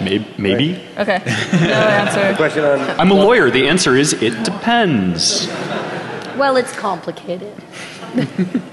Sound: laughing

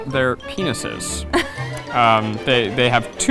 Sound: laughing

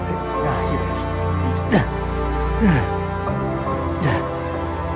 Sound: Muldoon grunting; Muldoon grunting

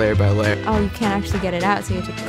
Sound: voiceover

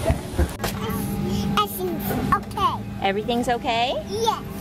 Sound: baby talk

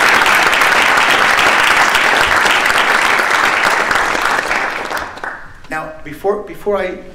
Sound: applause

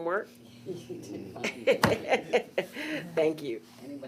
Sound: chuckles

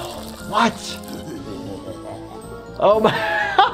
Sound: green bunny chuckling; laughs

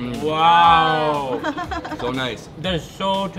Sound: laughing

